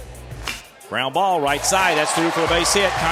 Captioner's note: voiceover